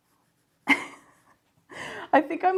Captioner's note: laughs